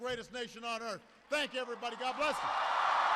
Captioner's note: applause